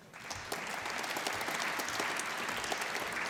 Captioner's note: applause